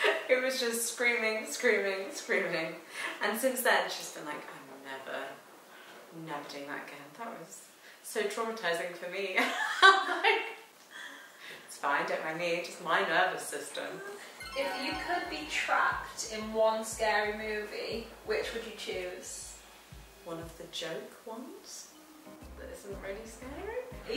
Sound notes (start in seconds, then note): 9.5 laughing